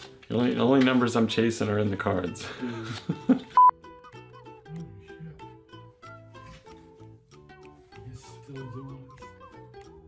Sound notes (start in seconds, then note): 2.6 laughs; 3.5 beep; 6.5 laughs